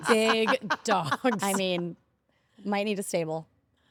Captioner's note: laugh